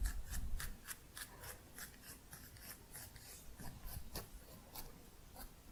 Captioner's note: scissors sounds